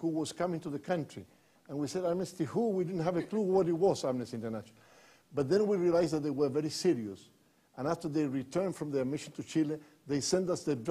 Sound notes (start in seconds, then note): none